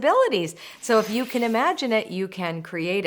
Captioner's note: loud whooshing